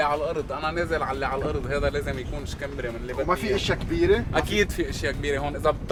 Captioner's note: in Arabic